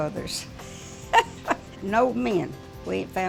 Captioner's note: laughing